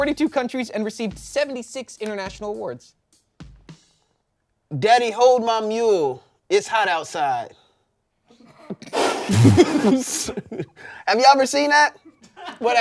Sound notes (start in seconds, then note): 8.9 everyone laughs